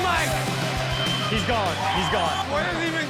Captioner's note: men cheering